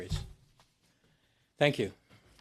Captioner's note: speaking French